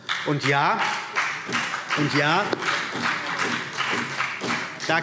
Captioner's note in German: Beifall CDU und BÜNDNIS 90/DIE GRÜNEN